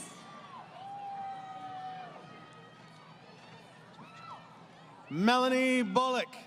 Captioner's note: crowd Cheering